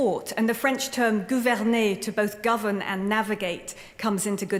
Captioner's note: french